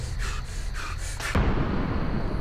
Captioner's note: panting